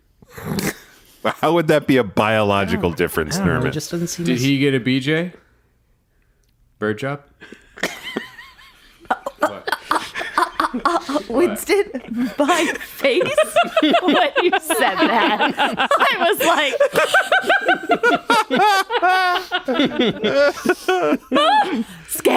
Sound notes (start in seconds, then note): 12.5 chokes up; 19.1 everyone laughing